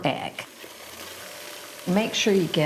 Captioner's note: mixer buzzing